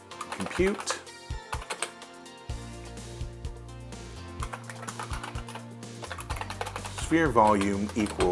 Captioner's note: IBM Model M clicky keyboard typing